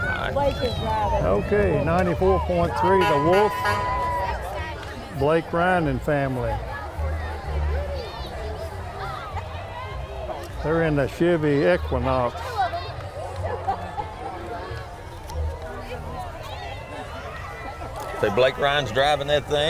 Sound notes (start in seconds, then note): 2.8 horn honks; 8.4 people chatter; 14.7 chattering and upbeat music continue